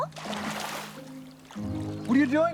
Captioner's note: water splashes